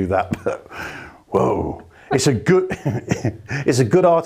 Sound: chuckles

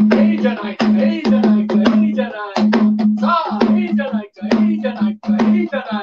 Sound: plays drum; chants in Japanese

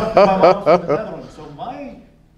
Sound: laughing

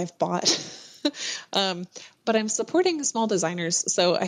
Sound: laughs

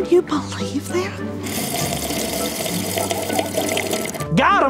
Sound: Gertrude slurping

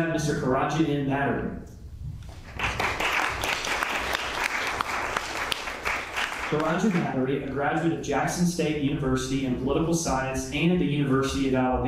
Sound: applause

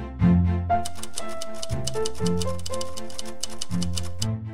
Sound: typewriter clacking; whimsical music

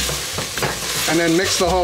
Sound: sizzling

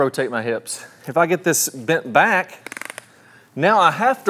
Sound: device snaps

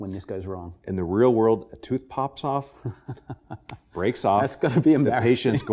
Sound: laughs

